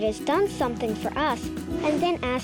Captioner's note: whooshing sound